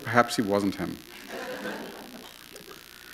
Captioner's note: laughter